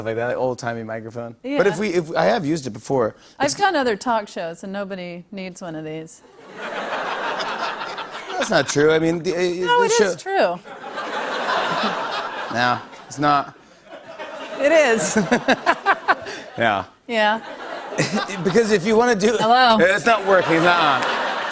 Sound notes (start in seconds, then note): 6.4 laughter; 10.6 laughter